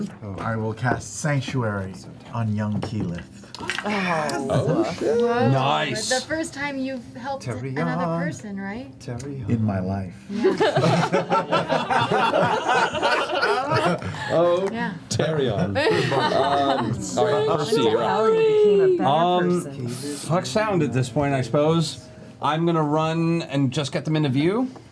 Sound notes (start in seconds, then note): 10.3 laughter